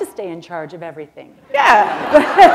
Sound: laughter

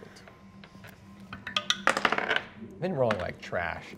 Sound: dice rolling

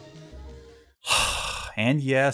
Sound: disgusted sigh

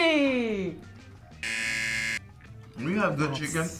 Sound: buzzer rings

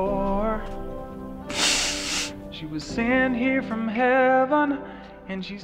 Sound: sniffling

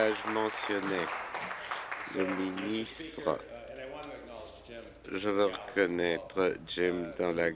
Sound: applause

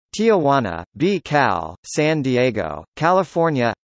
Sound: in Danish

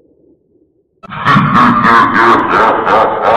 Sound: deep & sinister laughter

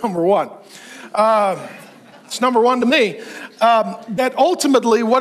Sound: congregation laughs

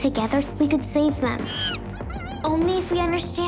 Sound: chimpanzee sounds

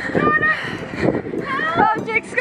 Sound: yelling

